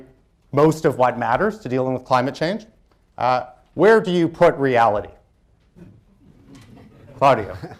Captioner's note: laughter